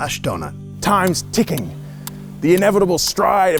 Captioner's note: clock ticking